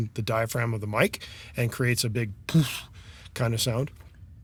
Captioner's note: blows